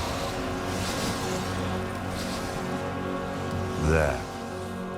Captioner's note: wind howling